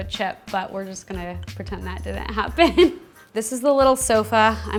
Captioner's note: chuckles